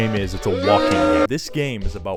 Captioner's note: boooo